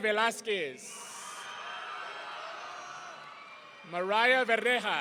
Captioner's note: audience cheering